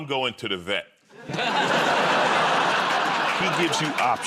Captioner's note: laughter